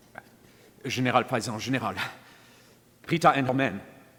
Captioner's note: man speaking in foreign language